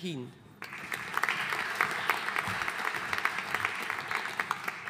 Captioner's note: audience applauding